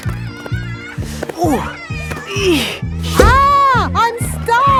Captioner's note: grunting